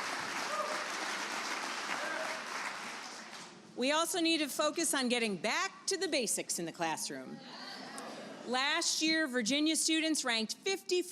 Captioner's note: applause